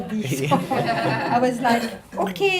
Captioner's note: audience laughing